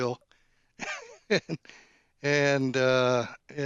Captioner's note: laughs